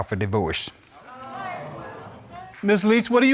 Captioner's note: crowd gasping